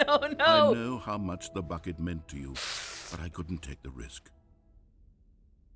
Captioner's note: takes a deep breath